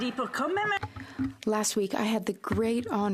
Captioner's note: applause; speaking French